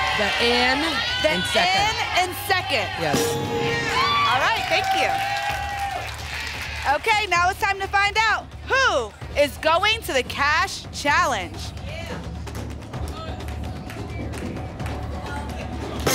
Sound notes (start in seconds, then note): 3.2 ping; 5.4 applause and cheering